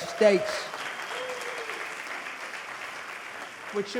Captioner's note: audience clapping